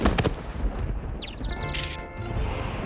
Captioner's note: birds chirping; whirring